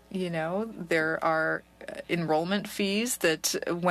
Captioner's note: speaking French